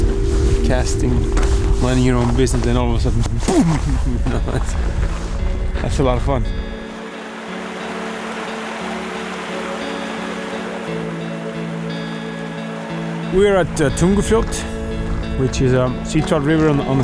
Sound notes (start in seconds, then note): 3.4 chuckles; 7.1 light ambient music; 7.1 water flowing